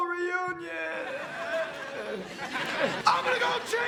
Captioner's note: audience laughing